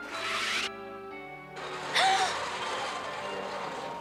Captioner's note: gasps